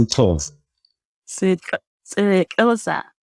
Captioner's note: says it quickly